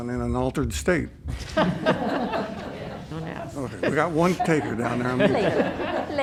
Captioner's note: laughter